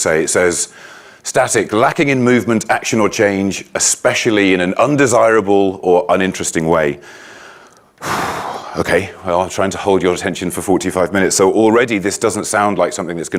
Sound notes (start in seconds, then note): 7.9 sighs